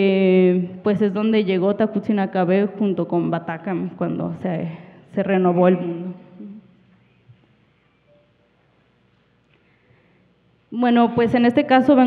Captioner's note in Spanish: habla en wixárika